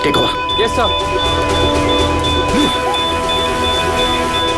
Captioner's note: Beeping sound